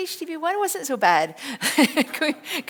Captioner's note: laughs